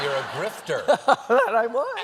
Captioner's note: laughter